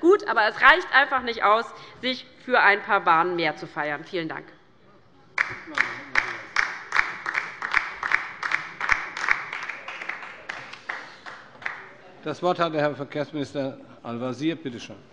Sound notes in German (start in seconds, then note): 5.4 Beifall bei der LINKEN